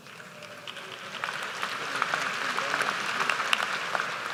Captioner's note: applause